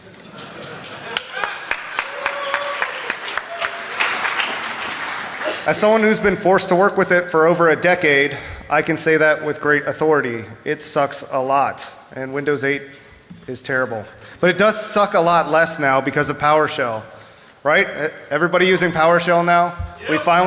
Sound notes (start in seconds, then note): 0.2 laughter; 1.0 cheers and applause